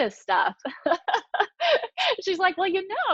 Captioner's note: laughing